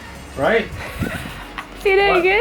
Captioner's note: dying seal laughter